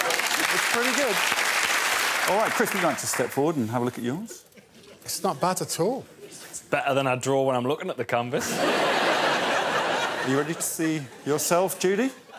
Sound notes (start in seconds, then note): 0.0 cheers and applause; 10.8 laughter